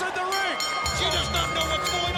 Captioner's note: bell rings